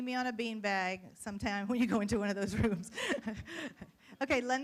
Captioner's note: laughs